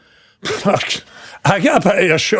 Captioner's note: laughing